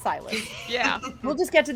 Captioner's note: laughs